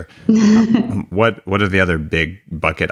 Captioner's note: laughs